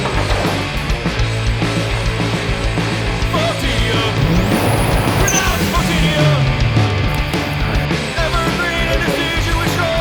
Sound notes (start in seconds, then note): 4.5 engine revs